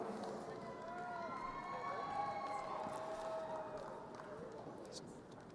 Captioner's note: crowd cheering